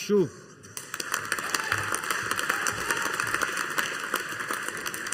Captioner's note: audience applauding